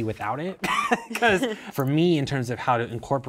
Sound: chuckling

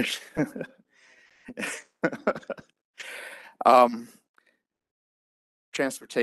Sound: chuckles

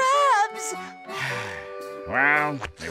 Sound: sighing

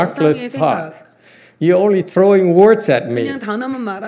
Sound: laughs

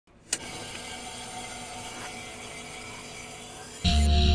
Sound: a click, then static; heavy guitar: BAAAAAOOOW! ...BAAAAAOOOW!

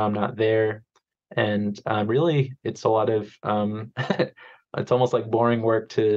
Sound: chuckles

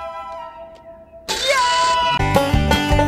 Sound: stab, Yelling

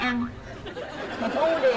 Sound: laughters

